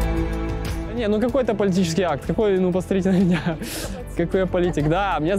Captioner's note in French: rires